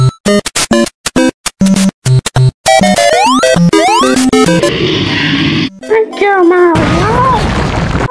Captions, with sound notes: (Growl) Thank you Mari-OH!